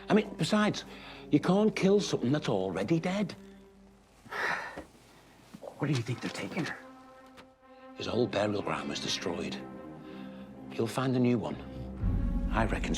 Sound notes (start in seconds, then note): 4.2 Hatfield sighs